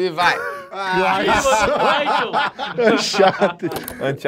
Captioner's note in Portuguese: risadas